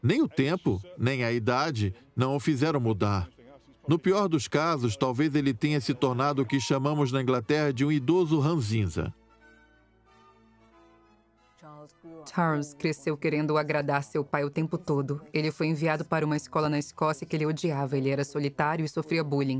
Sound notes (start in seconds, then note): 6.3 beep; 7.2 regal instrumental music